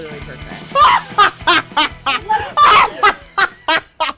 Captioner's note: evil laughter